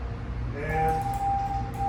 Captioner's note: morse Code